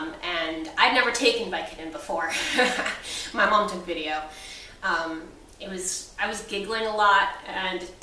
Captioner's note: laughs